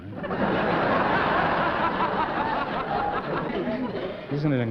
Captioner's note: laughter